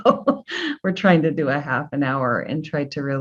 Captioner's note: laughs